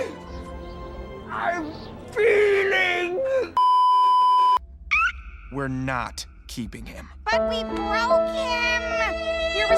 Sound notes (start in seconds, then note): 3.6 beeeeeeeeeeeep; 5.1 happy reverby squeak